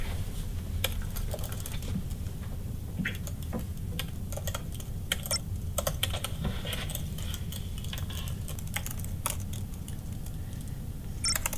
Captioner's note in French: Il tape sur le clavier